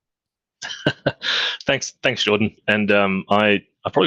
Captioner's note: laughs